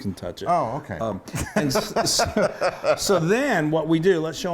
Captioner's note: laughs